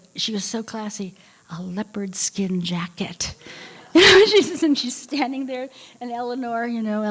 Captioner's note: laughter